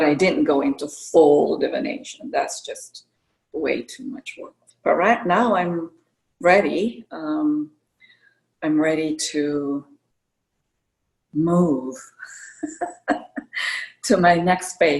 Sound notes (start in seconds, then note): 12.5 laughter